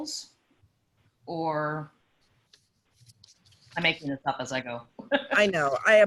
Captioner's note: laughs